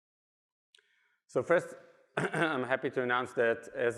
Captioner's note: clears throat